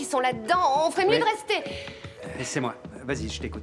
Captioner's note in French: Sophie soupire